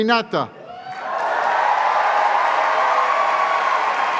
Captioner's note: cheers and applause